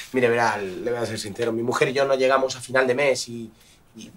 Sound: none

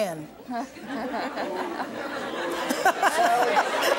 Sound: laughter

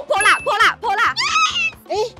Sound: excited noises

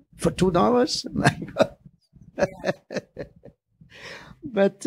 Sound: laughing

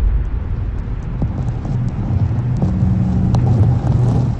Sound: Static

